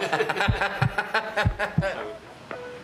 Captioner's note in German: Herzpochen